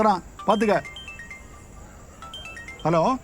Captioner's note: phone rings